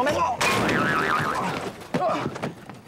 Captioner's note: thud